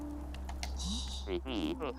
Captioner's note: laughs softly